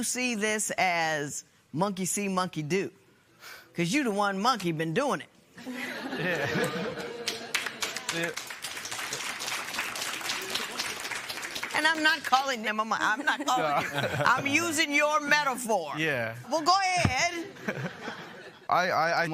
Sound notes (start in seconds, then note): 5.6 laughter; 8.5 applause